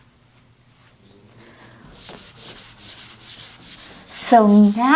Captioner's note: eraser wiping board